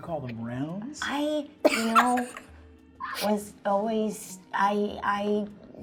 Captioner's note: laughing